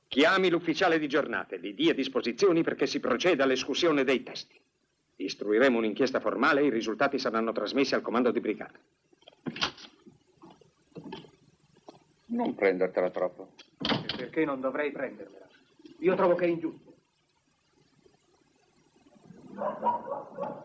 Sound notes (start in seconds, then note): 13.7 door closes